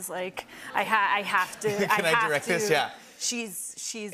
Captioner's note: laughter